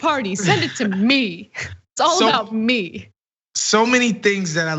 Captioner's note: laugh